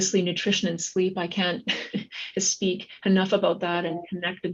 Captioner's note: chuckles